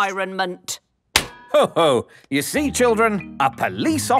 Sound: slaps

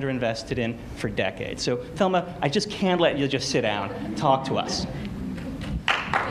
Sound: applause

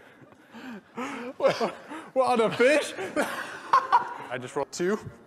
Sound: laugh; laughs

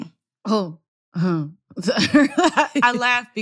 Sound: laughter

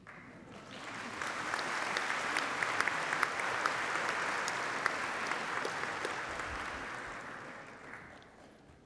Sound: applause

